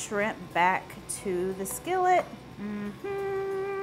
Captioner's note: humming